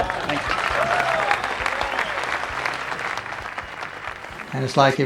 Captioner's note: audience applauding